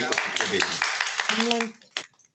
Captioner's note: students applauding